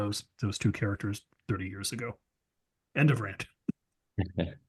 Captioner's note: laugh